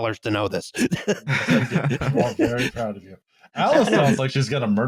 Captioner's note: laughter